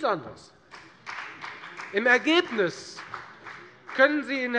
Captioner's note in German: Beifall bei der FDP